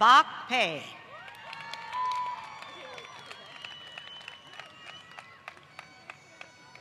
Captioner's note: applause